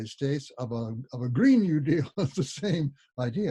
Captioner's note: laughs